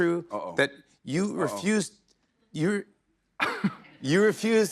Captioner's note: chuckles